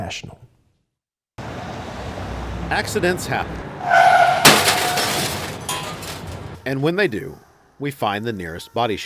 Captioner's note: car crash sounds